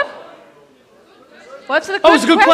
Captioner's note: audience members shouting